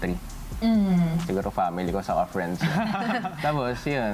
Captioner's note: giggles